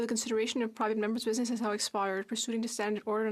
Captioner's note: speaking French